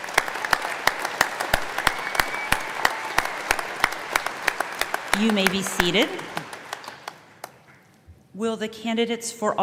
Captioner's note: applause